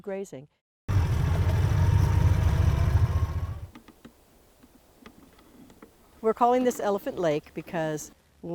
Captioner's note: car sounds